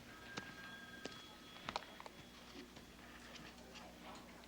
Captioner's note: phone ringing